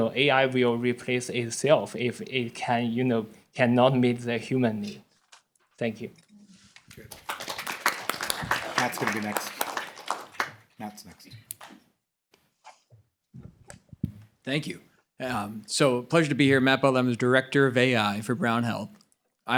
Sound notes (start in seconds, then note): 7.0 applause